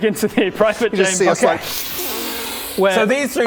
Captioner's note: inhales